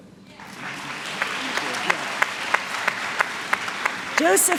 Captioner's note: applause